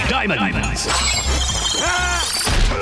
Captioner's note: screaming